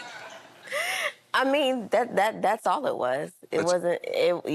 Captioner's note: laughs